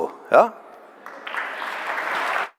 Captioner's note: applause